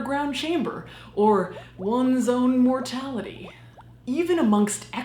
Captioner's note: water bubbling